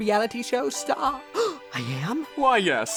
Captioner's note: gasps